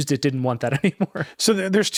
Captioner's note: chuckles